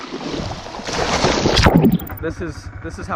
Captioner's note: water splashing